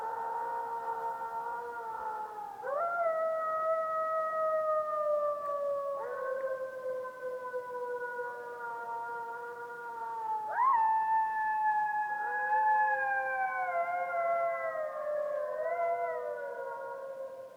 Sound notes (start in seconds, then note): 0.8 howl